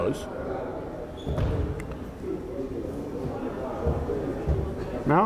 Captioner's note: crowd chattering